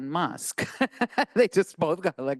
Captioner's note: laughing